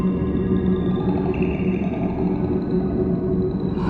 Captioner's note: growl